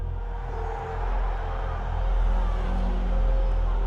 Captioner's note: crowd cheering